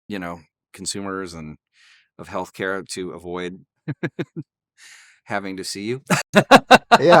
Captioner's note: laughs